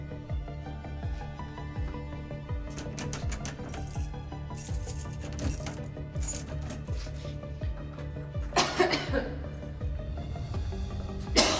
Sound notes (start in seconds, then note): 2.6 door jiggling; 4.1 upbeat suspenseful music